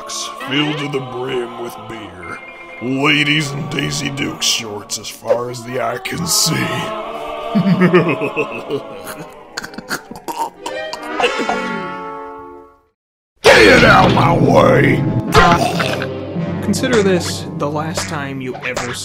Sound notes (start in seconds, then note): 7.4 disturbingly amorous laughter; 15.6 chokes